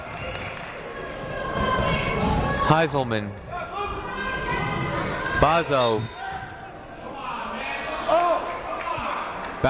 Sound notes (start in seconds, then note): 5.8 whistle blows